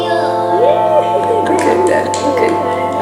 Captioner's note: laughter